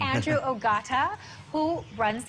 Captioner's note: chuckling